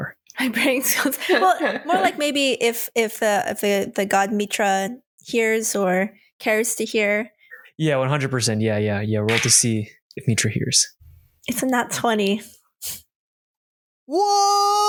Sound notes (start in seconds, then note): 1.2 chuckles